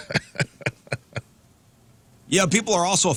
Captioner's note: laughing